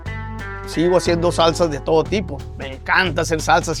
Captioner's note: German